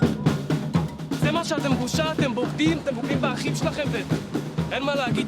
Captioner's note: percussive music; speaking foreign language